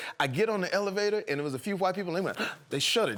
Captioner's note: sharp inhale